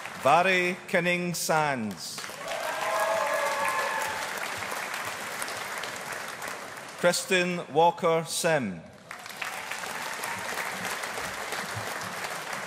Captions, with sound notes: Vhairi Kinning Sands. (AUDIENCE APPLAUDING) Kristen Walker Sim. (AUDIENCE APPLAUDING)